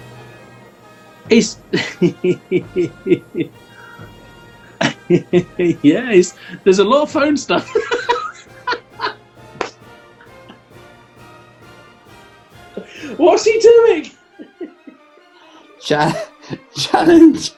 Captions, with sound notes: Is...? [CHUCKLING] Yeah, there's a lot of phone stuff. [LAUGHING] What's he doing‽ [LAUGHING] Challenge...!